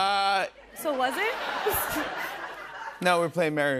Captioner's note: laughter